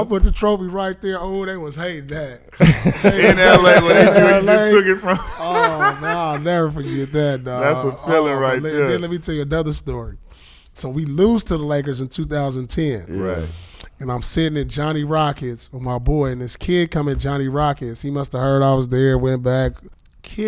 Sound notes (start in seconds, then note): 2.6 laughing